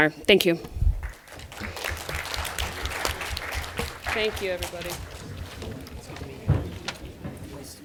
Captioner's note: applause